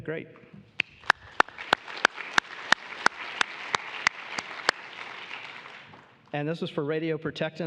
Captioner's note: applause